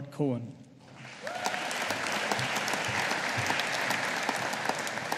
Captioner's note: audience applauding